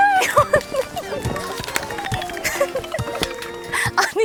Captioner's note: swoosh swoosh